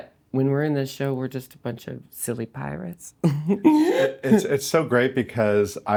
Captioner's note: laughing